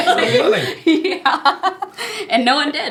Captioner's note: laughing